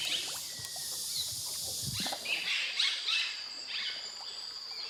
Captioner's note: otter chirping